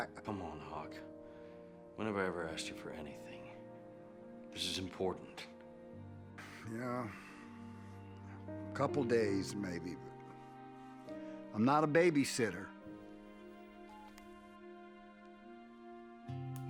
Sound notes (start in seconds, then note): 13.4 beeps